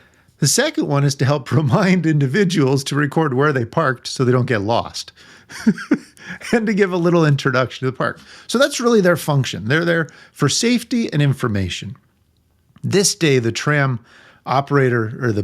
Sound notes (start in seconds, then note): 5.5 laughing